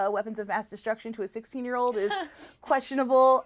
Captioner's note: laughs sarcastically